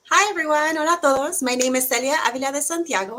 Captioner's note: foreign language